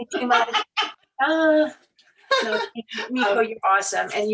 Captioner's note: laughing